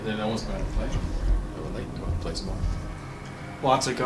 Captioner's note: faintly speaking